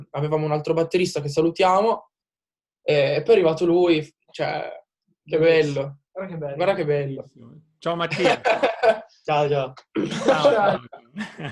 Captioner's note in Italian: risate